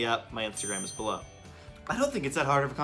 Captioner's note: bell rings